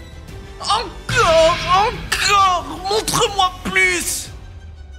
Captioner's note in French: hystérique